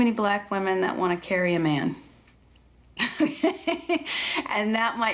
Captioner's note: laughing